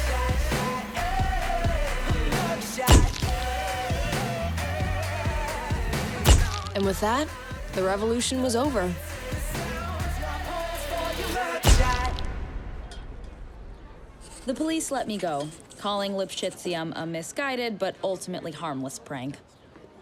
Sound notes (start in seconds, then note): 2.4 camera clicking